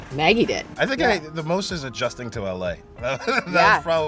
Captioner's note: laughs